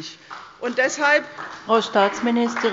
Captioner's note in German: Beifall bei Abgeordneten der CDU